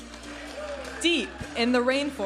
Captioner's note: audience applauding and cheering